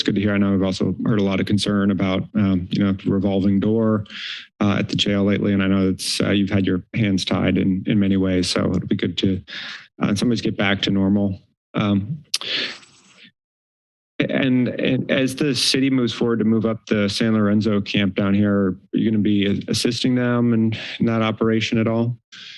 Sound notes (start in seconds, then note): 12.2 clicks tongue